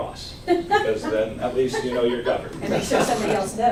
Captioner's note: laughs